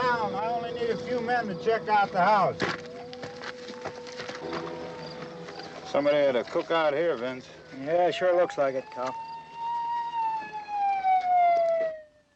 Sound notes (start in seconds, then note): 9.4 siren wailing